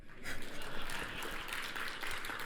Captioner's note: applause